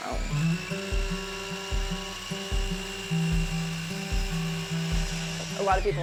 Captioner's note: lighthearted music; miter saw whirring